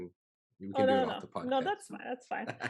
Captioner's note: laughing